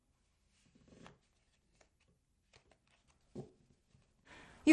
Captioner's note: cards shuffling